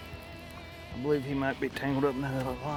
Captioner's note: fishing rod reeling